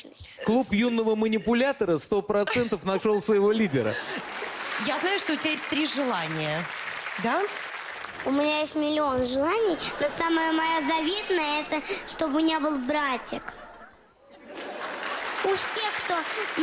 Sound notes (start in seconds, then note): 14.4 laugh, applause